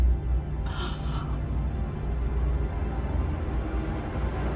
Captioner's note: gasping; dramatic music